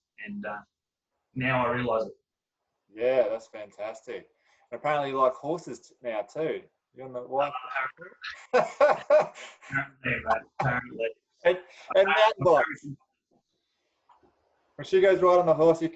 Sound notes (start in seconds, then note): 8.2 both laugh